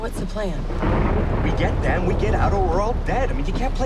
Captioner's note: thunderclap